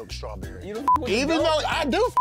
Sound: beep

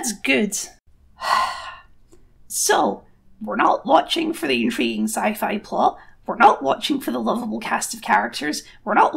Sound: longer Exasperated Sigh

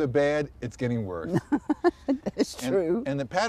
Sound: laughter

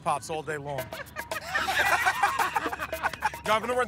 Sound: laughter

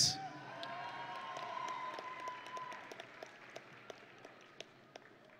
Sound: audience and graduates cheering

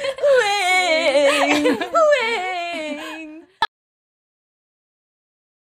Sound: making crying sound

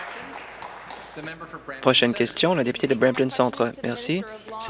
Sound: applause

